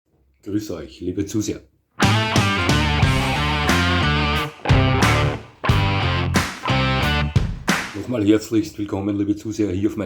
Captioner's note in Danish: bifald